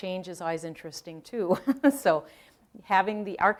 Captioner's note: laughing